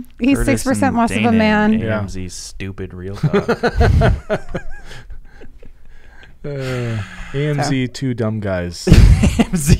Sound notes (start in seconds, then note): 3.2 everyone laughing; 8.9 laughing